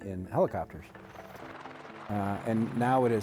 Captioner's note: helicopter blades whirring